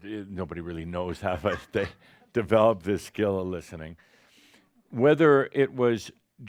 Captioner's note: a few chuckles